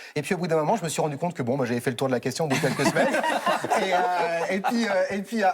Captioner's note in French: rires